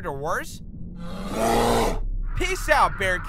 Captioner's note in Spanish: Gruñidos